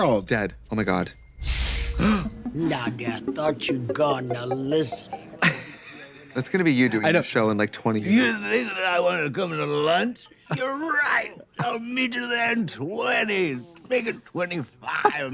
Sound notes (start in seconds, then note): 2.1 Katya gasps; 5.1 Katya laughing